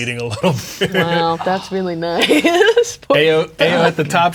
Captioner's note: laughing